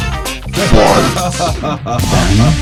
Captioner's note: autistic laugh on the background